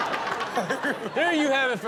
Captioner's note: audience laughs